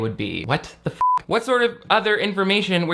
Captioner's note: beep